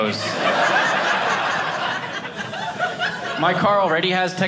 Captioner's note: audience laughing